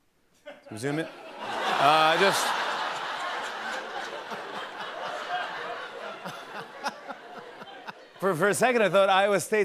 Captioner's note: laughter